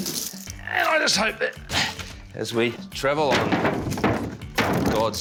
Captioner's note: grunts